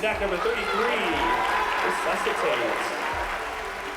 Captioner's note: cheering and applause